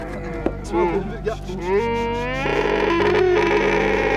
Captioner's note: bellowing